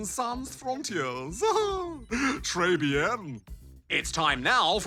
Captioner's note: laughs